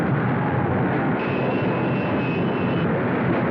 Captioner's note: horn Honking